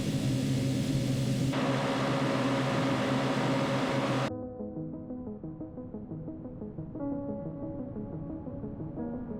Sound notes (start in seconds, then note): 1.5 car engines roaring; 4.6 light upbeat music